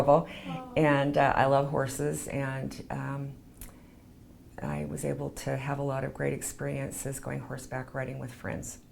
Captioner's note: laughs